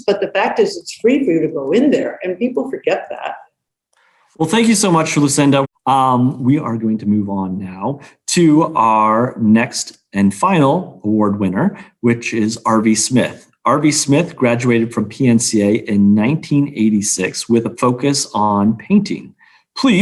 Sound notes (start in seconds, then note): none